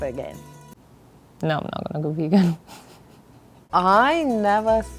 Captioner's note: giggling